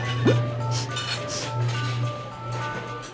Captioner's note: sniffing